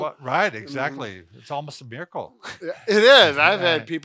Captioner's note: laughs